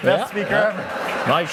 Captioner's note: laughter